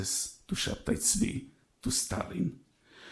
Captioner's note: speaks in foreign language